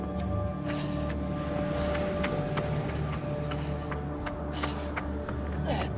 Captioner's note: Mark breathing heavily